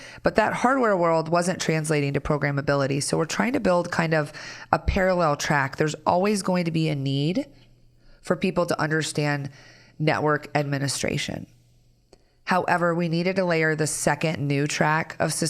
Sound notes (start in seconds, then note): none